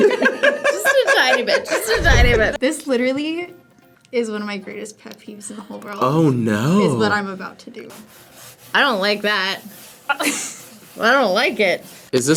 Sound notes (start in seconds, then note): 7.9 board scratching